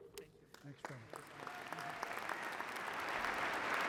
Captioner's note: applause